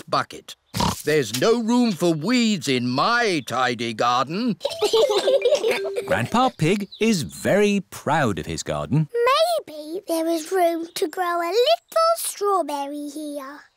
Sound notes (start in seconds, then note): 0.7 oinks; 4.6 both laugh